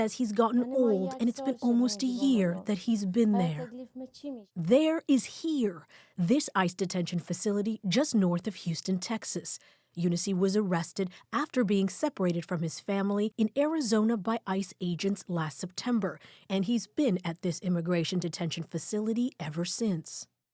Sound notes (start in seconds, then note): 5.0 speaking alternate language